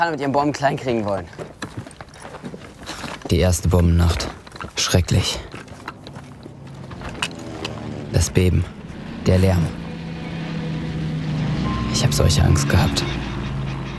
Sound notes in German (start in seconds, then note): 6.0 Flugzeugbrummen